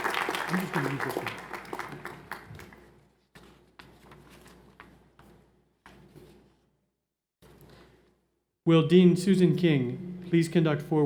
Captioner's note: applause